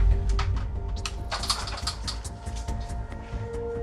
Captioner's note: door rattling